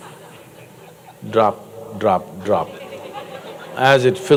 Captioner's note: laughter